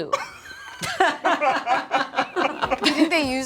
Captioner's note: group laughs